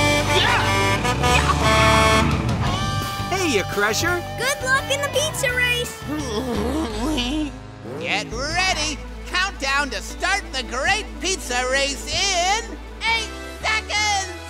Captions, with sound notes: Yeah! Hey, Crusher. Good luck in the pizza race! [groaning] Get ready! Countdown to start the Great Pizza Race in eight seconds.